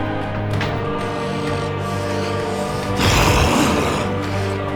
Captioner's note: growling